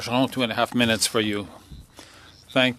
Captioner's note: speaking French